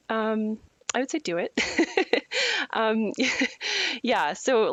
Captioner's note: laughs